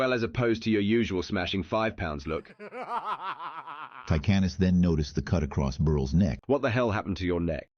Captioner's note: laughter